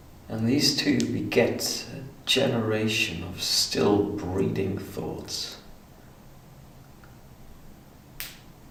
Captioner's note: none